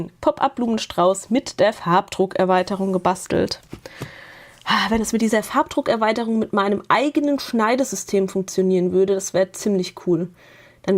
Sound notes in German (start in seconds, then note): 3.8 japst